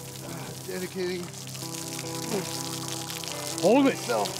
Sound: water running

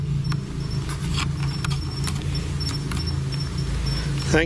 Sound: device beeps

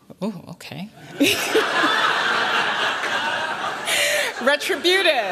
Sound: laughter

